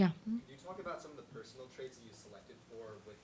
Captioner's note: voiceover